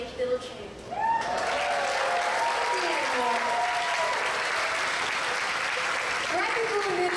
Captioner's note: applause